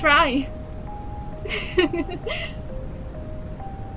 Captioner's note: Yumeka laughs